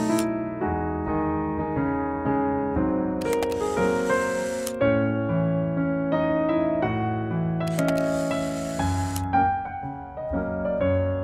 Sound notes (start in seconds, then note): 3.2 camera clicks; 7.6 camera clicks